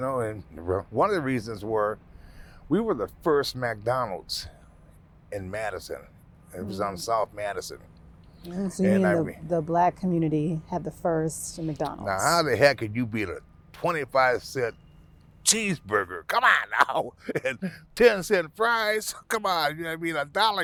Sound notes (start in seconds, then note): 16.2 laughing